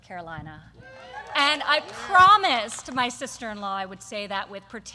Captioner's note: applause